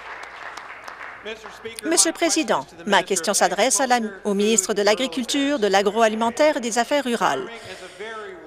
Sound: applause

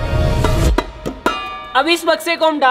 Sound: thud

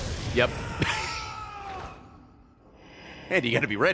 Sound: laughs

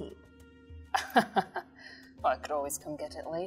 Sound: laughs

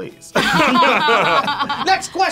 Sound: both laugh

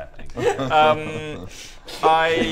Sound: laughs

